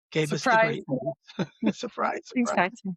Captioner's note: chuckles